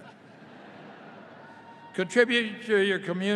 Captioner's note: audience laughing